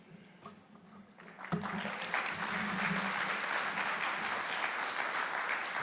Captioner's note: audience applauding